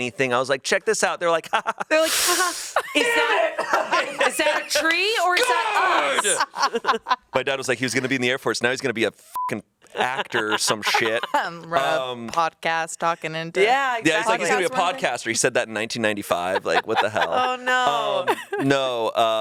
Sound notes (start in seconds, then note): 3.4 chuckles; 9.3 beep